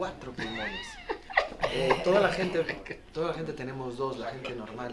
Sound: laugh

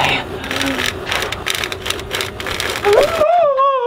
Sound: metal claw scraping wall; screaming

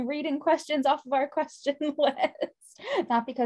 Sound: laughs

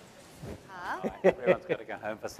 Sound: laughs

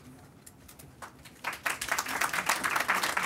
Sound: clapping

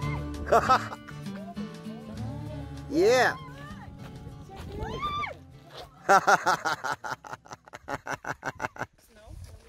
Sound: laughter

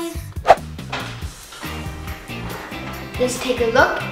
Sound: air whooshing

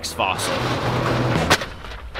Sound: garage door closes

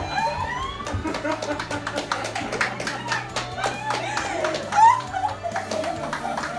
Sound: crying; everyone laughing; clapping

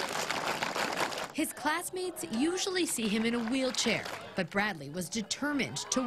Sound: cheering and applause

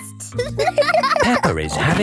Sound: giggles; laughing

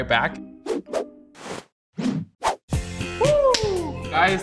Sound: aprons whooshing

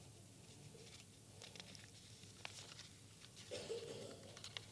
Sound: paper rustling

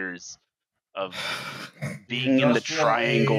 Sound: sighs heavily; talking from a distance

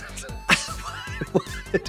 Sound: Trixie giggles

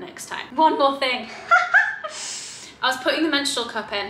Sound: laughs

